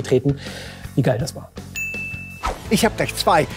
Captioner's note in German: Klingeln